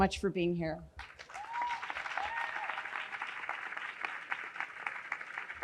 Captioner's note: audience cheering